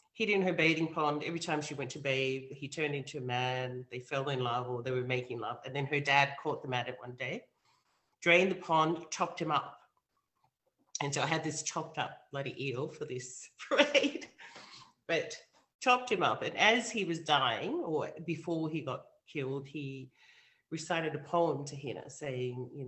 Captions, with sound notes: Hid in her bathing pond every time she went to bathe, he turned into a man, they fell in love or they were making love and then her dad caught the medic one day, drained the pond, chopped him up and so I had this chopped up like the EO (chuckles) for this braid. But chopped him up and as he was dying, or before he got killed, he recited a poem to Hina saying,